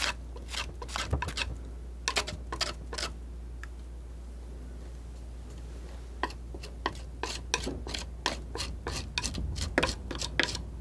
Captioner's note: scratching